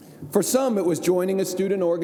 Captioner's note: none